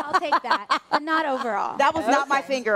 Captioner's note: laughter